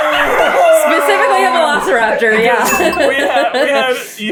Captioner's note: absolutely CACKLING